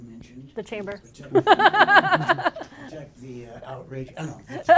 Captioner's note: laughter